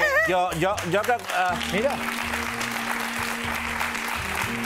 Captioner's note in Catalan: aplaudiments